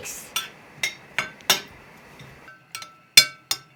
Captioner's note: spoon banging